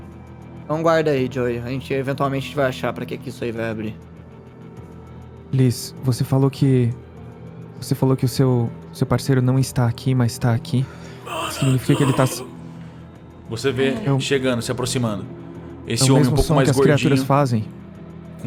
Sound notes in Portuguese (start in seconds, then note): 11.2 gemidos